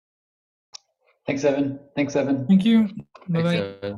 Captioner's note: voices